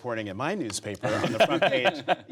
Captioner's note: laughter